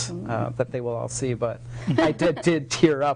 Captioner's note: laughing